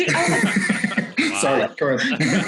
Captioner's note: laughs